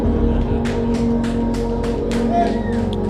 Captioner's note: applause